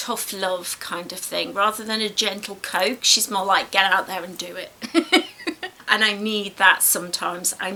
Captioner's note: laughs